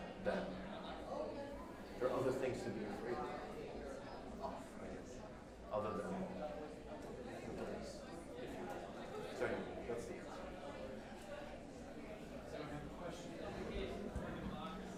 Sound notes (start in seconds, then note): 9.3 loud group chattering; 10.4 speaks faintly off mic